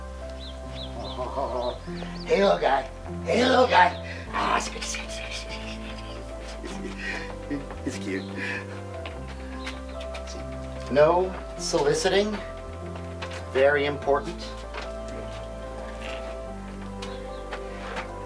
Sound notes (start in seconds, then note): 0.0 birds chirping; 0.0 bright piano music; 4.6 bright piano music; 8.9 birds chirping; 8.9 bright piano music; 14.9 birds chirping; 14.9 bright piano music